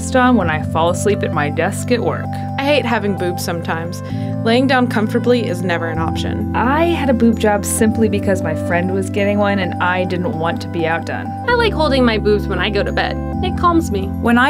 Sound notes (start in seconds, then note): 2.7 voiceover; 6.7 voiceover; 11.6 voiceover